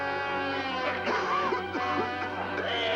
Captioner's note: coughing